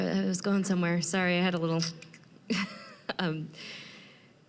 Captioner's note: laughing